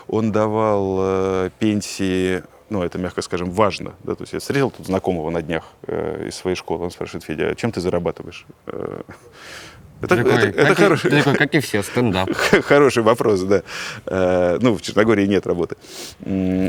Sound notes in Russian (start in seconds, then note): 10.1 усмехается